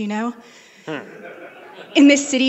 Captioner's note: laughing